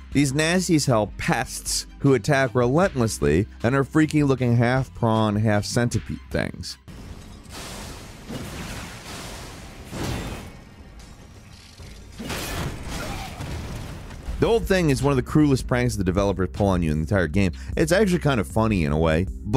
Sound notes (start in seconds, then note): 7.4 weapons crashing; 10.2 shield clinking